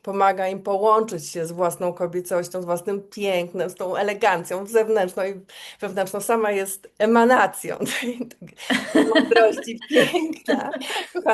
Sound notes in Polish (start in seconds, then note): 8.6 śmiech